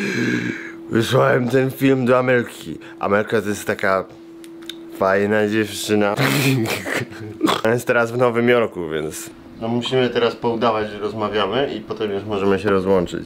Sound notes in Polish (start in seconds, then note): 6.2 śmiech